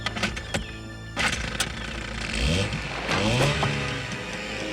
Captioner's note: motor whirring; arrow thudding